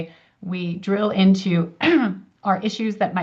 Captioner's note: clears throat